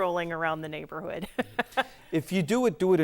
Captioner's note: laughing